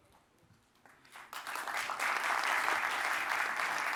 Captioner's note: applause